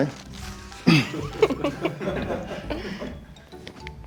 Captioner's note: people laughing